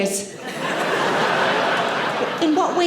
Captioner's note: audience laughing